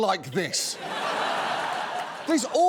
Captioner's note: audience laughing